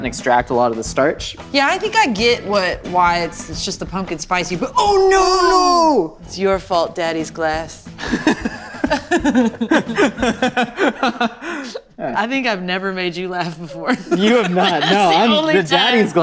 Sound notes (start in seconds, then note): 8.0 laughter